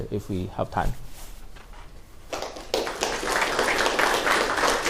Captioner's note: applause